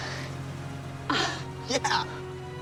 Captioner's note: moan